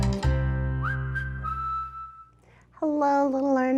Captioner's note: cheerful whistling